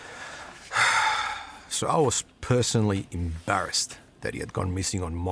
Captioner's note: sighs